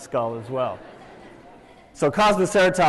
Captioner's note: laughter